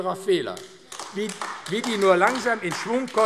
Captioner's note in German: Beifall AfD